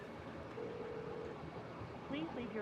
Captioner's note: phone rings